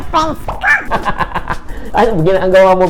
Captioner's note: laughter